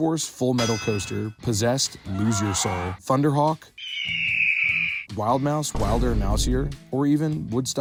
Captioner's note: hawk noises